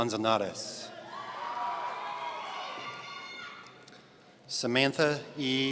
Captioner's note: audience cheering